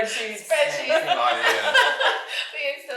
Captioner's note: all laughing